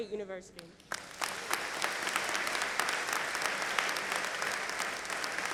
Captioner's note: audience applauding